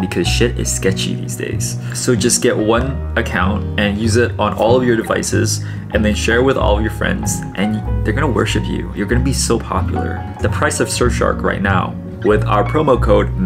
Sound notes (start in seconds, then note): none